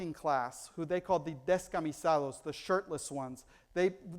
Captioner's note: foreign language